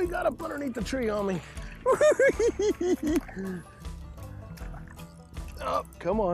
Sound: giggling

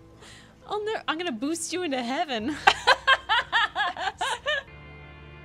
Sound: laughter

